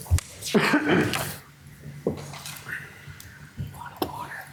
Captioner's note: coughing